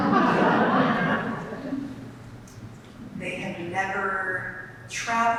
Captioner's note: audience laughs